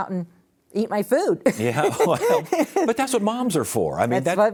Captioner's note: laughs